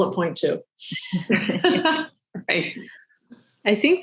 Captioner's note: laughing